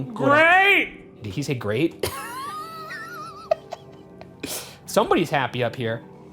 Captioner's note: laughs